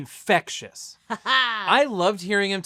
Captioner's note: laughs